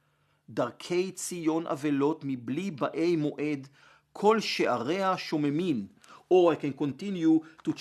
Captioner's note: Hebrew